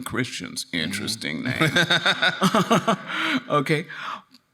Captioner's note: laughing